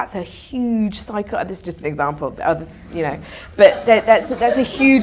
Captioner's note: audience laughter